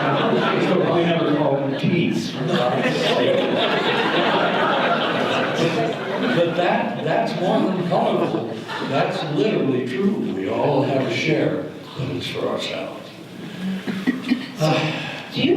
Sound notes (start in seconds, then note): 4.0 audience laughter